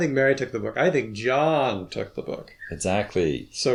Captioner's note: stressed